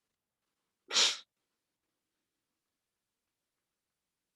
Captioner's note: sniffles